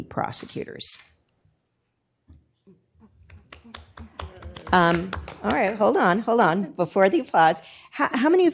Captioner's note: applause